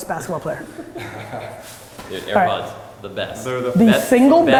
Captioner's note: group laughter